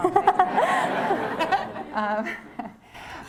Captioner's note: laughter